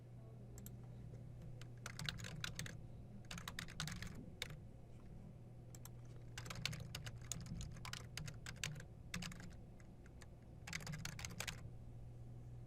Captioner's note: typing